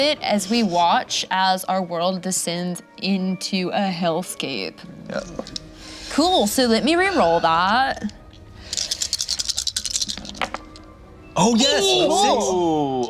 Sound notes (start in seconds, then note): 8.6 dice clattering